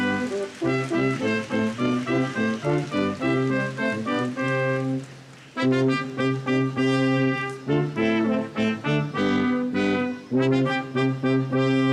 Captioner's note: applause